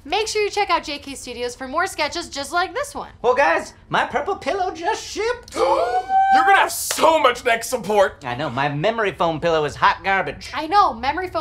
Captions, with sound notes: Make sure you check out JK! Studios for more sketches just like this one. - Well guys, my Purple pillow just shipped. (gasping) - You're gonna have so much neck support. - I know. My memory foam pillow is hot garbage. - I know.